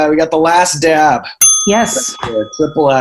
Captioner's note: ding